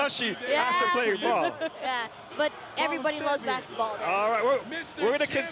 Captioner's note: laughter